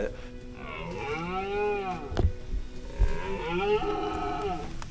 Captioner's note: stag bellowing